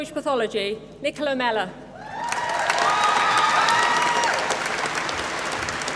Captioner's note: applause